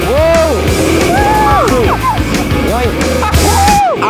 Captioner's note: cheering